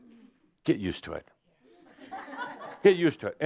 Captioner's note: some laughter